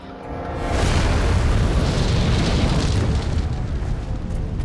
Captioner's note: explosion